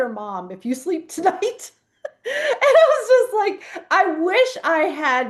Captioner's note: laughs